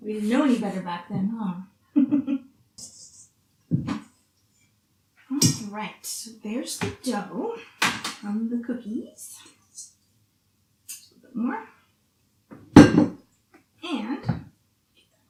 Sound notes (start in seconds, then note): 1.9 laughs